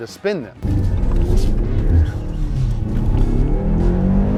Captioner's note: engine revs